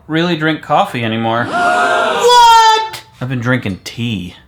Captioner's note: audience Gasping